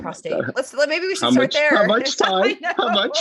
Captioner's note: laughs